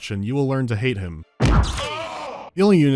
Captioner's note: bash